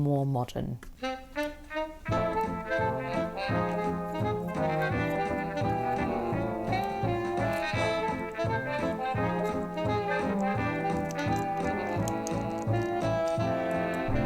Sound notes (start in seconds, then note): 3.2 needles clicking; 12.0 fluff in mouth noises